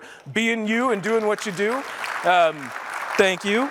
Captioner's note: applause